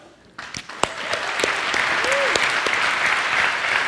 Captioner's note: audience applauds